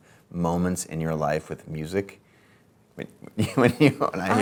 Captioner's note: laughs